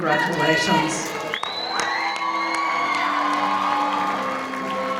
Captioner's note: audience cheering